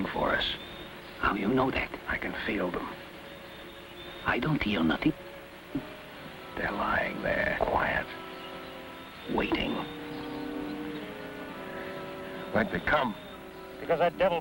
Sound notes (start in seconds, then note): 7.0 wind moans